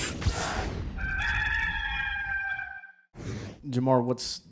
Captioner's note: rooster crowing